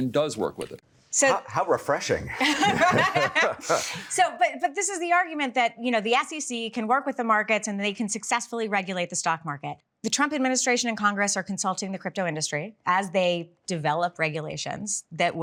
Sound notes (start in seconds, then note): 2.3 both laughing